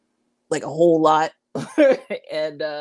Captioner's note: chuckles